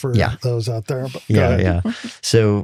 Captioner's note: laughing